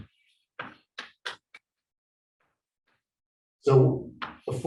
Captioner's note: chalkboard tapping loudly